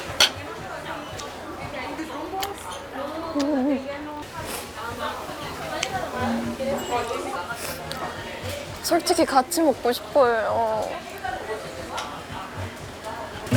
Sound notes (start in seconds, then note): 4.4 sniffle; 5.2 slurp; 7.4 sniffle